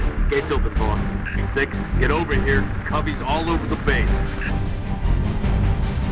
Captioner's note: radio